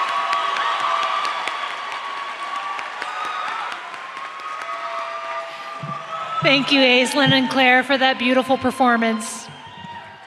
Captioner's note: applause